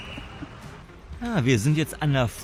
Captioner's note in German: gelächter